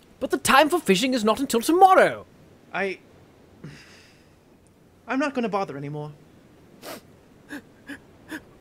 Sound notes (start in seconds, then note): 3.6 sigh